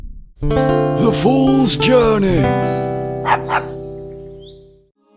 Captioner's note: dog barks